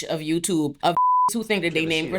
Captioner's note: beep